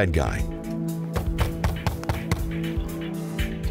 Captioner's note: knocking